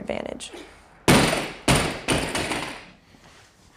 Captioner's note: barbells hitting floor